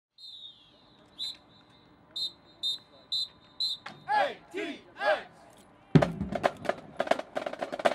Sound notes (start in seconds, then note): 0.1 whistle; 5.9 drums